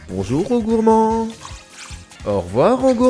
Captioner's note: Skwovet's cry